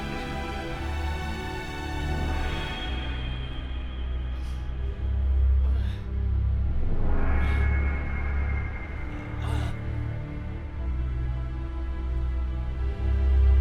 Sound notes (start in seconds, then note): 9.4 Arlo groans